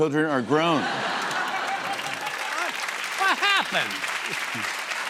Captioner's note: cheers and applause